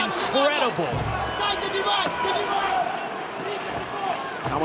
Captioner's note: foreign